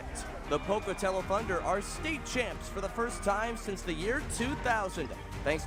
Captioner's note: cheering